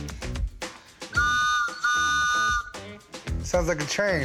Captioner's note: whistle blows